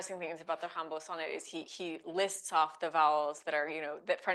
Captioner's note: speaking French